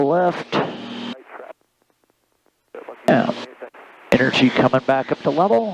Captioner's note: radio chattering